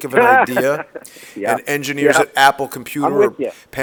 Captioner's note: laughter